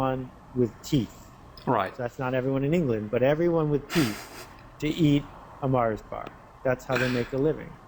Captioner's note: laughter